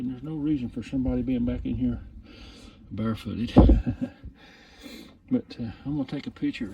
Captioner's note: chuckles